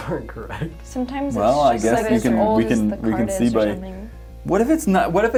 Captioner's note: group talking in unison